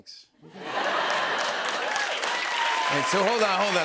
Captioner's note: cheers and applause